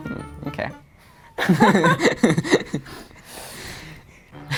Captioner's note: laughs